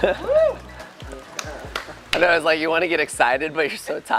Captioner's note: scattered group applause and cheering